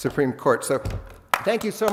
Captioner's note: applause